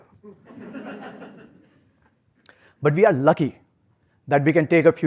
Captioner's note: laugh